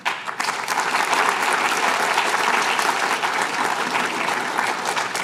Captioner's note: applause